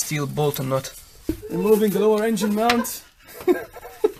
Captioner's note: laughter in background